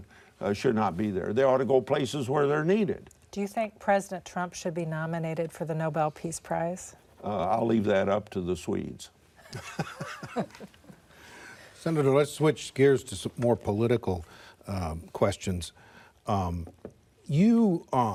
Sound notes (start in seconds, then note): 9.4 laughter